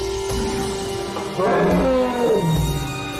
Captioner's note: growling; calm ethnic music